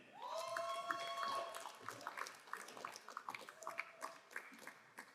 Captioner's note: crowd cheering and applauding